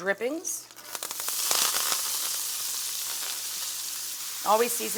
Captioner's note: ingredients sizzle